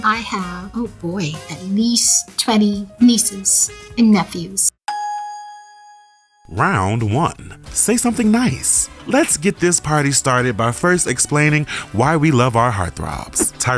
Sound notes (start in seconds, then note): 4.9 ding